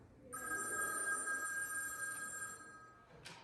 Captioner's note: phone rings